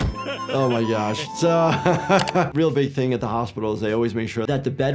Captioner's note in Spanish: Homero riendo; risas